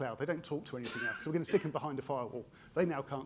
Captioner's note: attendee coughing